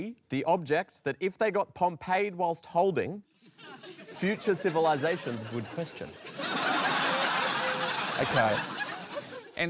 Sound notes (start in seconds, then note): 6.7 laughter